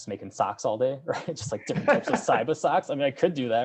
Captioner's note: chuckles; laughing